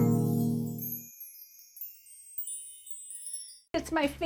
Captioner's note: tinkling